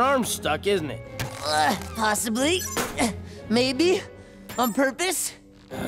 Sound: grunting

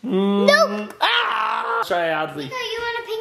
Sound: makes disappointed noise again

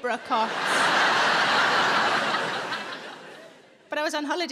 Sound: audience laughing

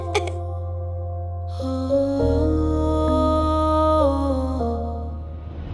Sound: sobbing; emotional vocalising

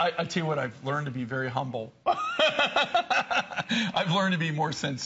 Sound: laughter

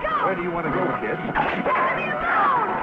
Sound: Rebel barks

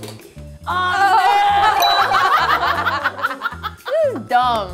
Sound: laughing

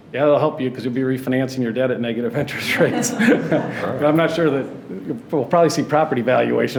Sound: laughs

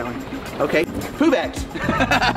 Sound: laughs

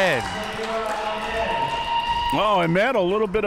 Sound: spectators applauding

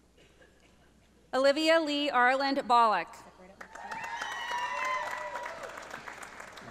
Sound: audience applauding

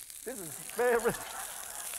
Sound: laughter

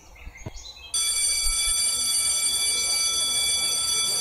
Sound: lunch-bell rings

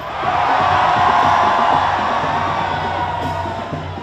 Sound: crowd cheers

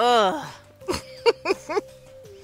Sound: laughs

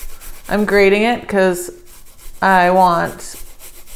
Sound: none

